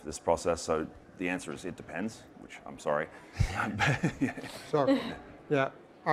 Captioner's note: laughs